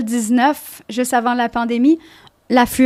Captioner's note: in french